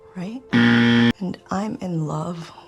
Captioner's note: loud incorrect buzzer